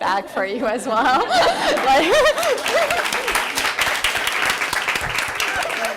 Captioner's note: applause